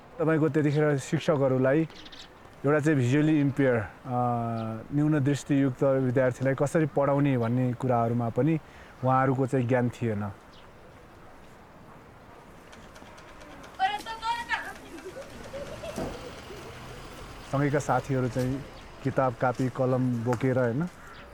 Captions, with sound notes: In those days, even teachers lacked knowledge on how to teach visually impaired students. [ambient village sounds] My friends went to school carrying books and pens.